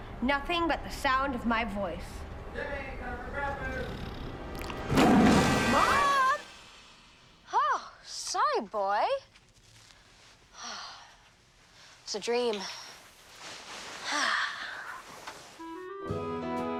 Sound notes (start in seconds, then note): 3.8 tiger snarling; 14.0 sighing